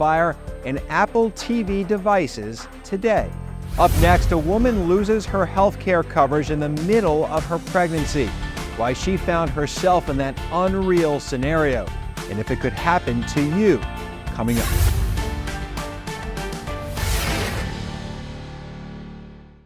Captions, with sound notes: and Apple TV devices today. Up next, a woman loses her healthcare coverage in the middle of her pregnancy. Why she found herself in that unreal scenario, and if it could happen to you. Coming up. (scene swooshing)